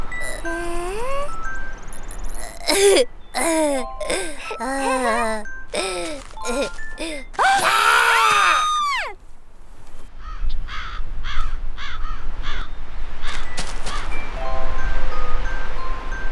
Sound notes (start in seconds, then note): 7.0 kid screaming